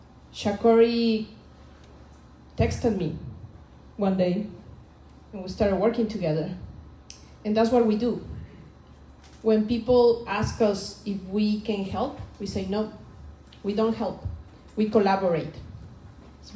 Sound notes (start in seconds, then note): none